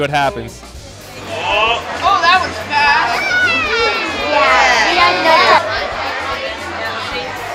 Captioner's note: cheering